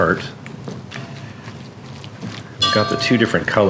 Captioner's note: sloshing